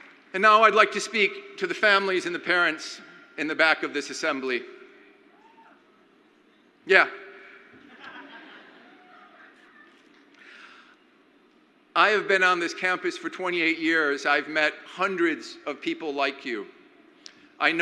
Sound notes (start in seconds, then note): 0.0 crowd applauds; 5.4 crowd member yells; 7.8 crowd laughs